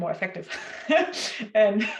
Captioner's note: laughs